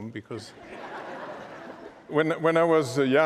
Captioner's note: laughter